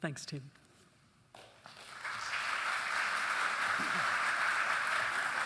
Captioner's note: audience applauding